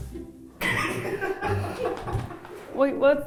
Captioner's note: crew laughs